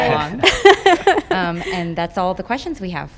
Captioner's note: laughing